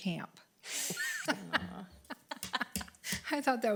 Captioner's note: laughs